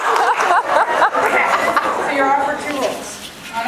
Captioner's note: laughs; laughs